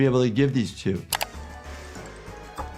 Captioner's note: click; suspenseful music